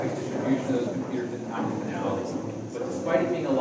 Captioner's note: people talking